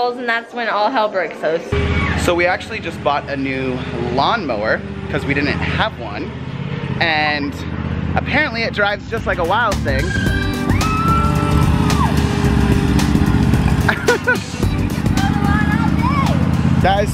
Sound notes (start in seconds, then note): 10.0 screaming and laughing; 10.1 upbeat music